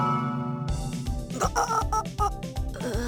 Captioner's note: gag